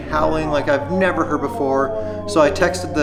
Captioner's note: Laska howling